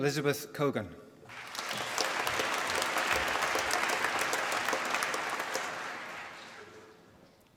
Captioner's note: applause